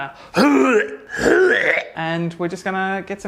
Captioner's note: retching